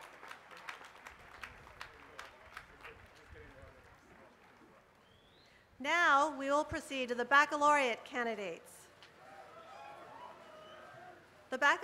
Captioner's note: applause